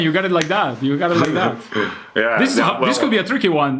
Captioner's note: chuckles